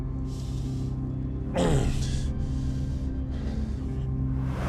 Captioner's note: grunts